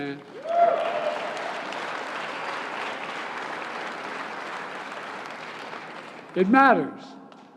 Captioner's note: applause